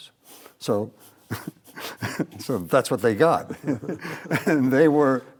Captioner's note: laughs